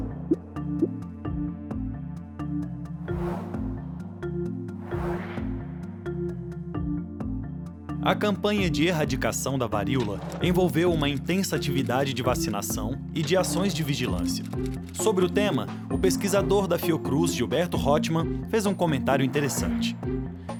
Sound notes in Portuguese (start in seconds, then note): 3.1 som de vento